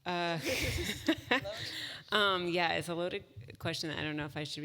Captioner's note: laugh